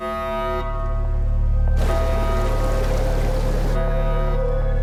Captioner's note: alarms blaring